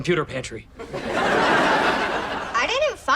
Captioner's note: audience laughs